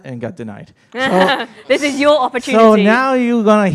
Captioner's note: chuckle